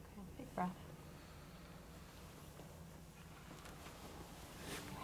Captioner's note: deep breath